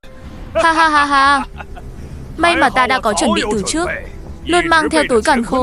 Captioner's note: laughs